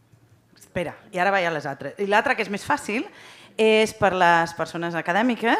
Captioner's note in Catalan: none